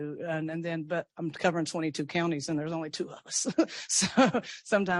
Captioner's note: laughs